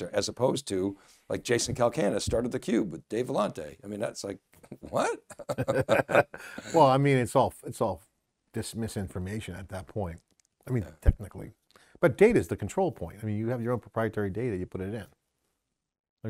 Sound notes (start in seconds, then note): 4.8 laughter